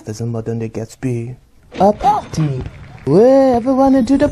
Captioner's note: sound of fireworks display is heard in distance